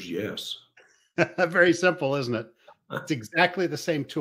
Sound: laughs

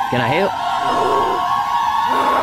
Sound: strange woman growls; strange woman continues growling; strange woman growls louder

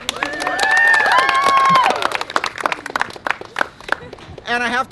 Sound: cheering and clapping

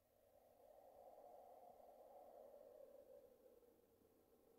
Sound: winds blowing

